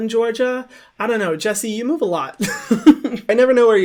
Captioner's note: laughs